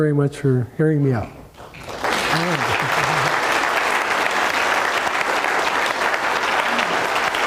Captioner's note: clapping